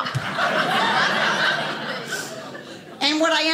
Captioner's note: audience laughing